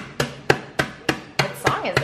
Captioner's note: singing; rolling pin banging